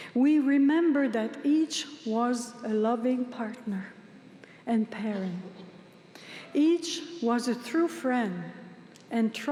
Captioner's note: speaking french